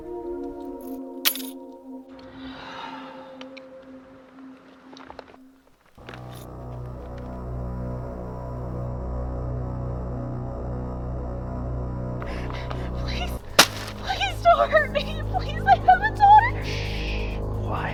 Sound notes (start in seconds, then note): 1.2 keys clattering on the ground; 2.4 woman sighing; 6.4 tense music